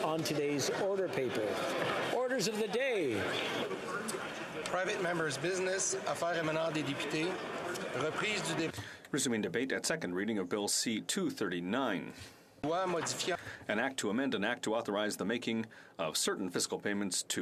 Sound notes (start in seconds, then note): 12.0 speaking French